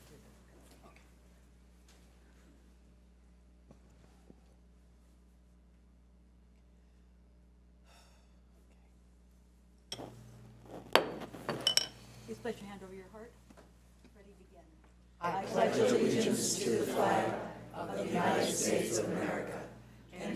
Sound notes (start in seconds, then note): 10.8 gavel bangs